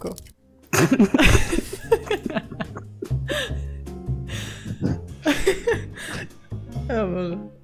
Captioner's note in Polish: śmiech